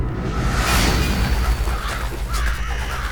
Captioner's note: eerie music playing; crows cawing